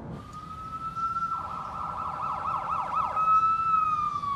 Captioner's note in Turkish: Ambulans sireni çalıyor